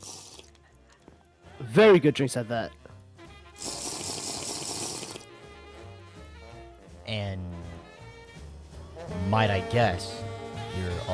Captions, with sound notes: Very good drinks at that. (Sipping) And might I guess,